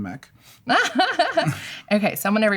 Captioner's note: laughter